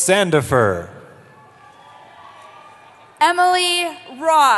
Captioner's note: cheering